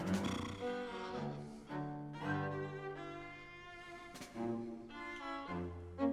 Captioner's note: playful music; James blows raspberry